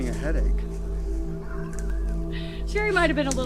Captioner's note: laughs